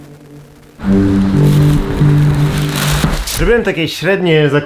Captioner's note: rustle of plastic bags